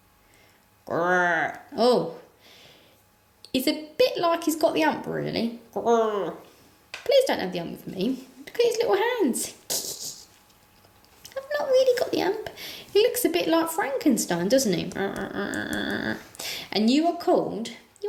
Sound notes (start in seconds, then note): 9.7 sniggers